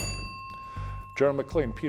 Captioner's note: bell ringing